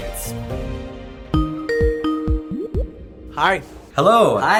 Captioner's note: Skype jingle